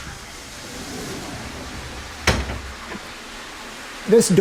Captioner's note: water running